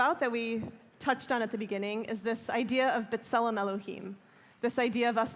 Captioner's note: hebrew